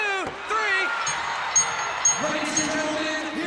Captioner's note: audience cheers; bell rings